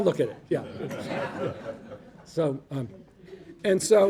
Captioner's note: audience laughing